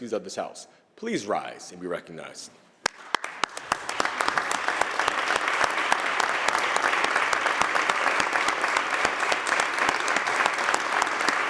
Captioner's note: applause